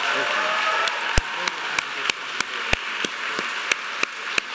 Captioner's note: audience cheering